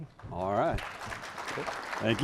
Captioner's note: applause